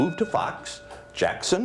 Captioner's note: bell ringing